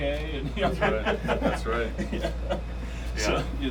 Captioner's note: men laughing